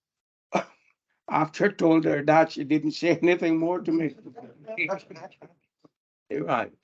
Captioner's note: panel laughs